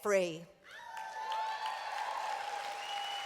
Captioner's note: applause